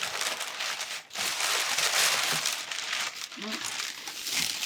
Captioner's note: paper crinkling